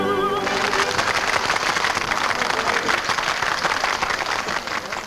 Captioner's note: patrons clap